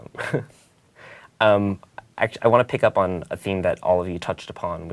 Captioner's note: laugh